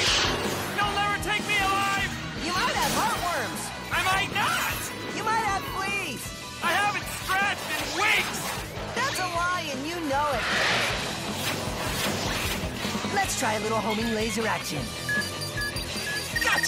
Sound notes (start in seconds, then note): 14.9 beeping